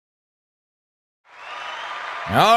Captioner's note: audience cheering